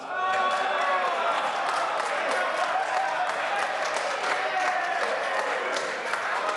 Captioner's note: members applaud